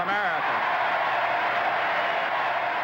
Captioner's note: applause